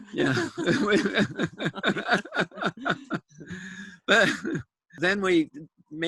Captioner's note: laughter